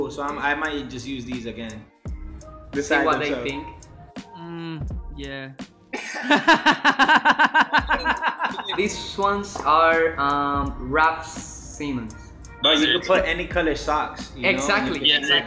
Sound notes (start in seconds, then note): 6.0 laughs